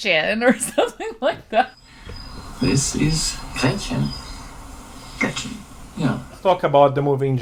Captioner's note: laughs